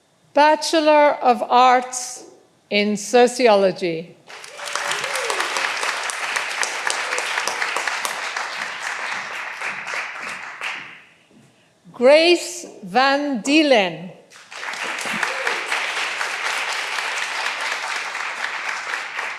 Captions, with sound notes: Bachelor of Arts in Sociology. (all applauding) Grace Van Deelen. (all applauding)